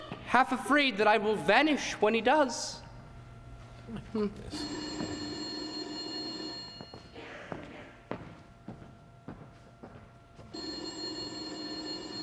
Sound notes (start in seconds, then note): 4.5 phone ringing